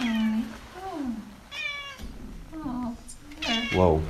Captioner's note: cat meows